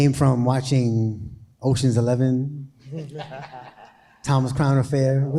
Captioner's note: people laughing